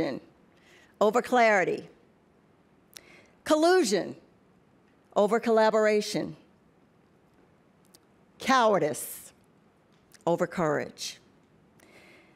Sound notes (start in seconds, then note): none